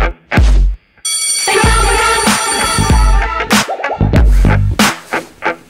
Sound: school bell rings

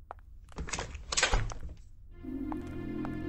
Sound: door closes

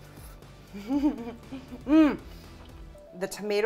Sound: giggles

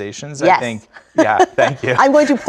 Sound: laugh

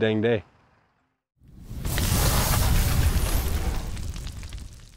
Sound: explosion

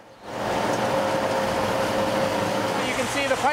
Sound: whirring

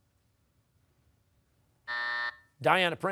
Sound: buzzer

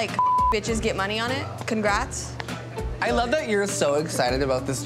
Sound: beep

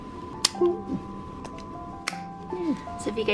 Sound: snaps

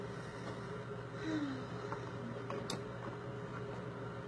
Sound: sighs

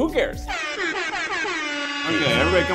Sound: horn alarms

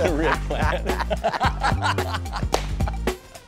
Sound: laughs

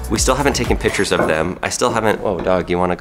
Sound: bell ringing

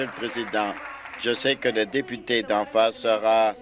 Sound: applause

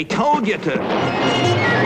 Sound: boom

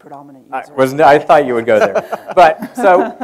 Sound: laughs

